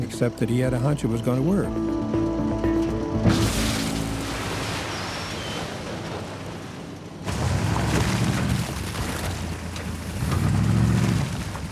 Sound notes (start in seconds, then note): 3.2 dirt thudding; 8.1 engine rumbling